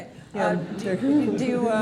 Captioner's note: laughter